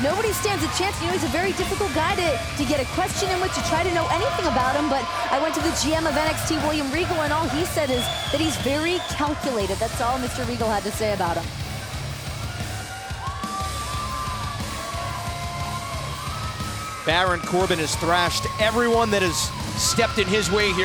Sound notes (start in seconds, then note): 11.7 crowd cheering